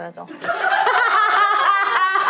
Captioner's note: ha ha ha